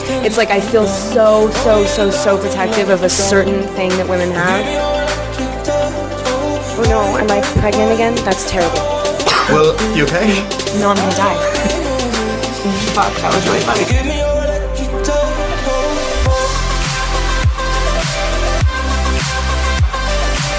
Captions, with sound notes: Like, it's like I feel so so so protective of a certain thing that women have. Oh no, am I pregnant again? That's terrible! *Sneezes* Well, you okay? No, I'm gonna die. Fuck, that was really funny!